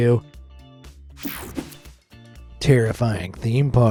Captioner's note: screen whooshing